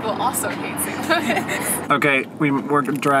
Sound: laughter

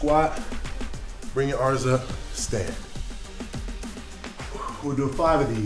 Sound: exhales

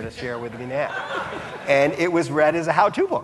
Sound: audience laughing

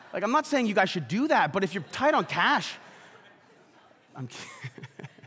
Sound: laughs

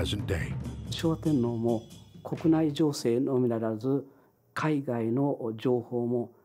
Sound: speaking in foreign language

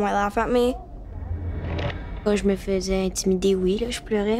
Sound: Milo speaking in French

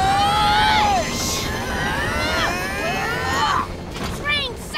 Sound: grunting

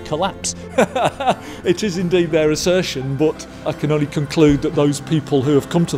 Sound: laughter

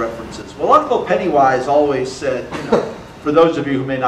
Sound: audience laughter

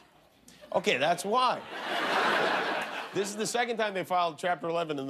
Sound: laughter

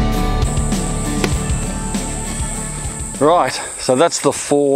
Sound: crickets croaking

